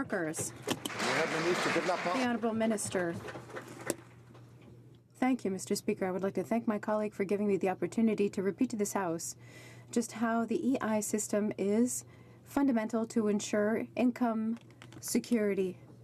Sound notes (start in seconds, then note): 3.3 some Applause